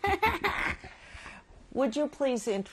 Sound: laughs

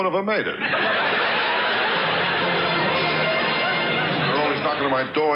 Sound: audience laughs; orchestra riffs

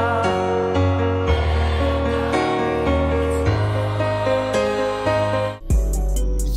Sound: crowd; title card music

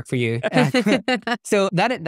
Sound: laughing

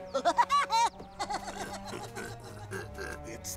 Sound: Woody laughs; grunting

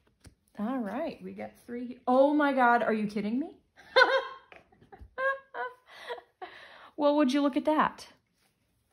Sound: laugher

